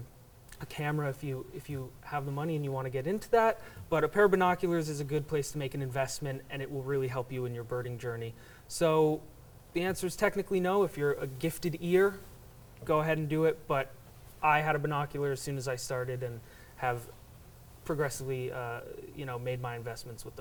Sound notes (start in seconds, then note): none